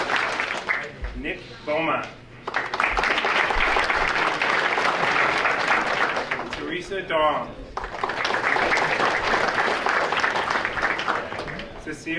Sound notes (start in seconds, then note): 2.4 audience applauding